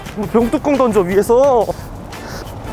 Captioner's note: panting